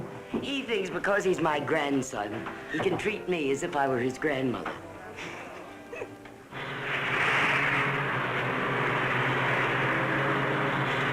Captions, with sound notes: He thinks because he's my grandson, he can treat me as if I were his grandmother. [laughter] [snowmobile driving]